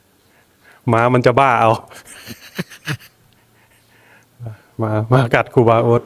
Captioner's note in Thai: เสียงหัวเราะ